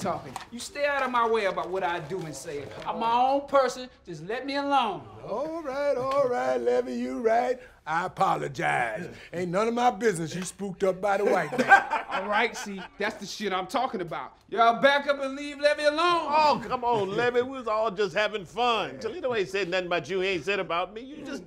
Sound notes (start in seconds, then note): 11.2 all laughing